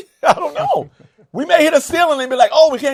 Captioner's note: laughs